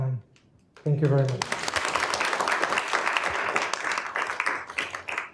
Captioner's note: applause